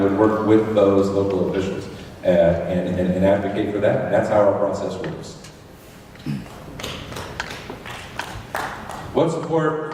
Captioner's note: scattered applause